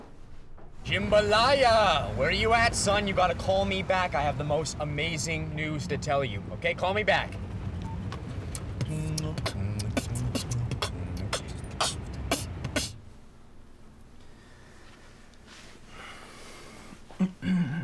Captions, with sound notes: Jimbalaya! Where you at, son? You gotta call me back I have the most amazing news to tell you! Okay? Call me back! (randomly beatboxes) (sighs and clears throat)